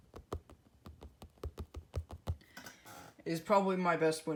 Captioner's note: taps on a window trying to do some asmr